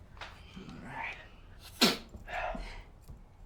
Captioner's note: sniffing